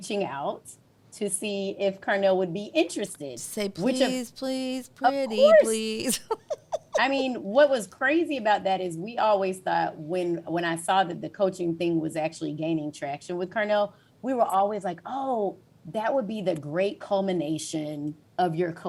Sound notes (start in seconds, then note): 3.6 sing-song